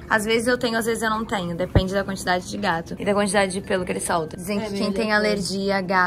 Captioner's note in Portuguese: none